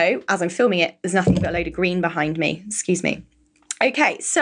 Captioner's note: microphone thumps